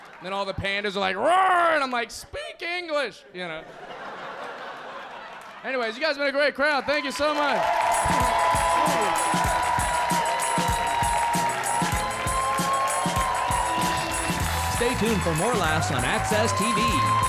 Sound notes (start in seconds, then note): 3.6 audience laughing; 7.7 audience cheering